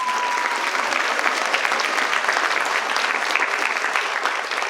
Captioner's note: participants applaud